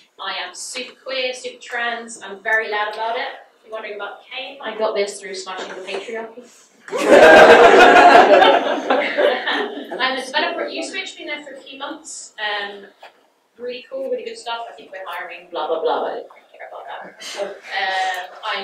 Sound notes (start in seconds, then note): 6.9 audience laughs